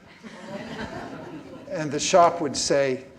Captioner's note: laughing